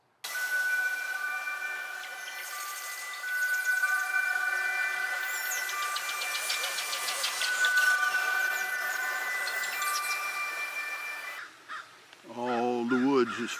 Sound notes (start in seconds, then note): 0.2 eerie music; 2.0 birds chirping; 11.6 crow cawing